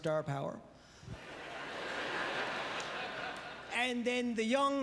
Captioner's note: audience laughter